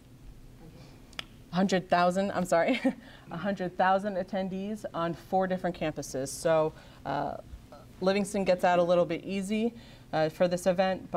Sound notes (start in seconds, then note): 2.6 chuckles